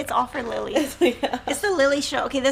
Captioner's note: laughs